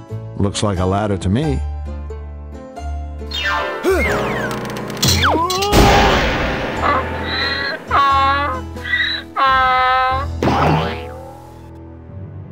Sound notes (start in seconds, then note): 5.2 screams and falls; 6.7 donkey brays